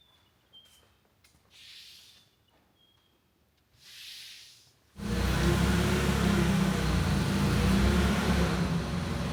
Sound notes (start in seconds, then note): 5.0 engine rumbling